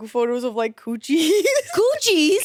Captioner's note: chuckles